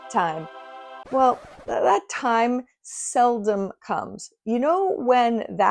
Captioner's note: rewind screech